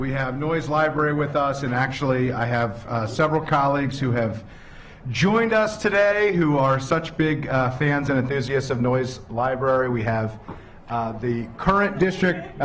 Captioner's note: laughter